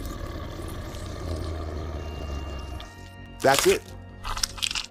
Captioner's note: growl